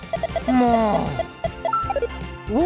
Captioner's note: sigh